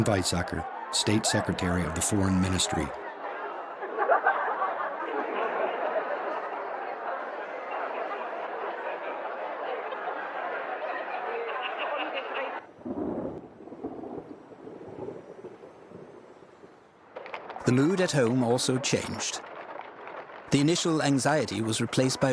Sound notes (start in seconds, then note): 4.6 indistinct crowd chatter; 12.7 distant thunder rumbling